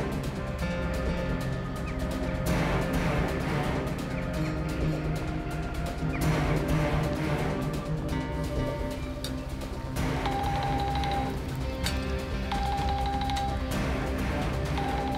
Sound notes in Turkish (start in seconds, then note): 6.9 Gerilim müziği; 10.2 Telefon çalıyor